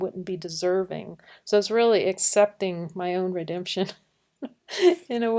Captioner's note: laughing